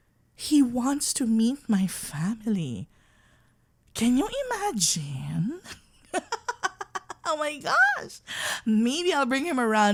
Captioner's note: laugh